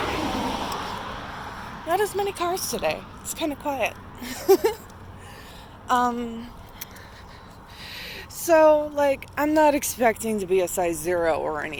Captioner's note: laughs